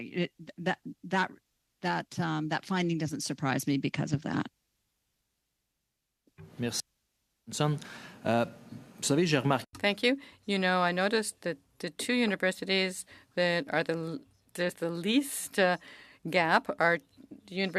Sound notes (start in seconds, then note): 13.1 speaking french